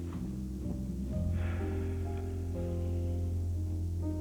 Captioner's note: sighs